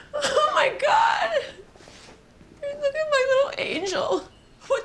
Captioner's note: sobs